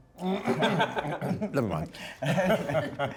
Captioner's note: laughter